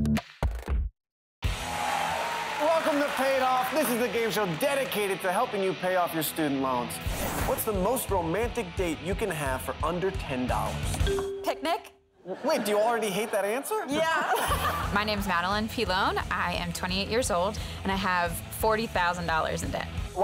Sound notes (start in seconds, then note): 12.2 laughs